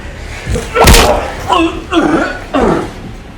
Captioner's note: gagging